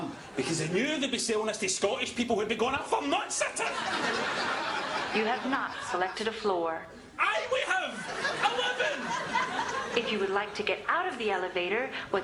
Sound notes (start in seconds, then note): 3.4 laughter